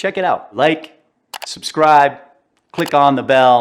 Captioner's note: mouse clicks